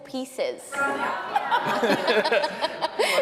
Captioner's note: hosts laughing